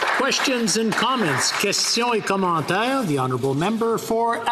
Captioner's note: applause